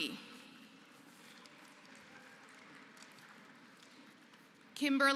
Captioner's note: applause